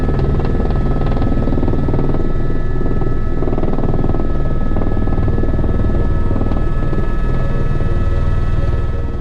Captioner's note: helicopter sound from the interior